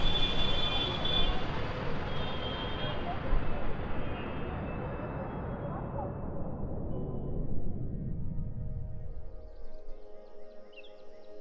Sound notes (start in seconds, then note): 2.8 city noises fade